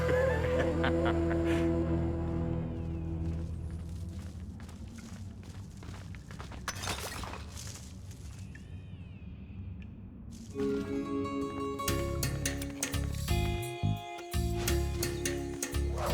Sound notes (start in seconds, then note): 0.0 laughs meanly; 7.0 clattering